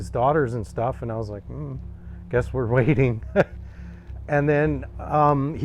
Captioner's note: chuckles